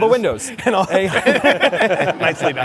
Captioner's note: laughter